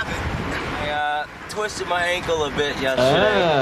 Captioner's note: none